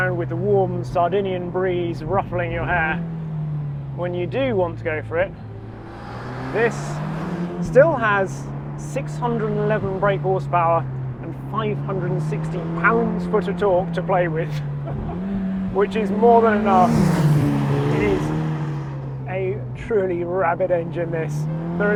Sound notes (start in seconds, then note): 14.7 laughing; 17.0 car engine revving